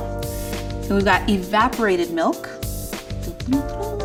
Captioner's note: hums